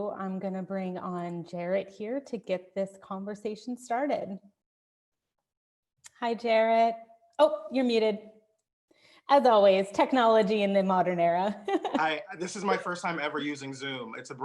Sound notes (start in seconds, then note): 11.8 laughing